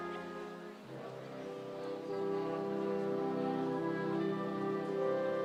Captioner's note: crowd chattering